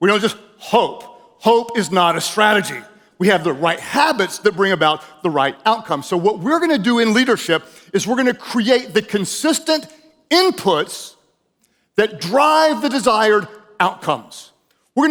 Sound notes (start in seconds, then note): none